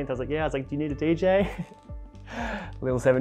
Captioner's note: chuckles